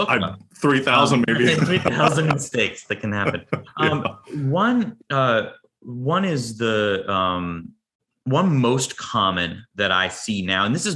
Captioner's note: laugh